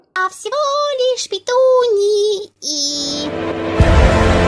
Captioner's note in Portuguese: mulher cantarolando